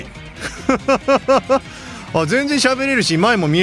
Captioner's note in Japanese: 笑い